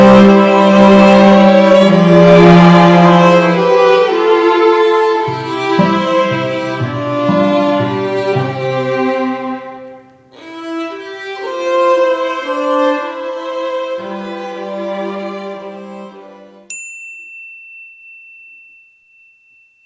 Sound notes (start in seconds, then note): 16.6 bell dings